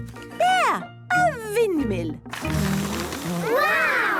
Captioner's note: blows